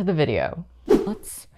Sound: whoosh

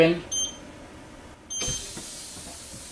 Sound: device beeps; air whooshes

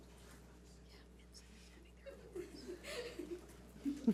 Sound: woman whispering

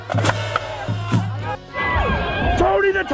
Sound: crowd cheering

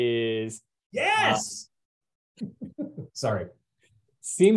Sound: chuckles

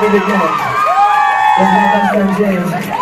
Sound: crowd cheering

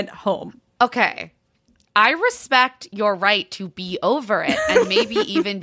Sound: laughing

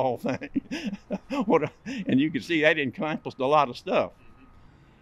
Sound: laugh

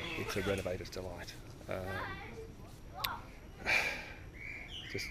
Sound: sighs

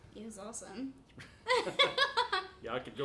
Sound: both laughing

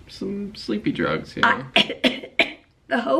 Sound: coughing

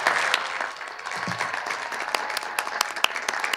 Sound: cheers and applause

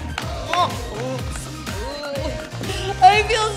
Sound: groaning

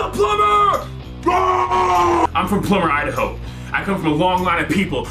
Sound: yelling

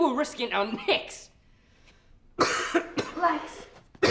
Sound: coughing

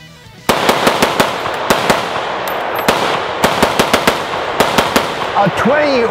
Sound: rifle firing; upbeat music begins

